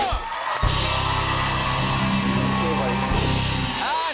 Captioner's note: cheers and applause